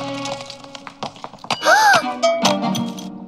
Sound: gasps

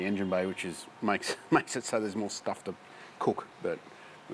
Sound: laughs

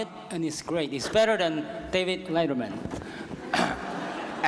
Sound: laughter

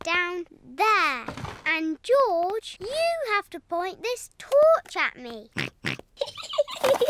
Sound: snorts; giggling

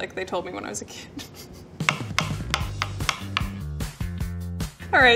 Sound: laughing

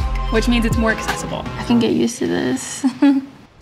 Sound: laughs

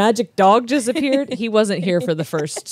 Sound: laughs

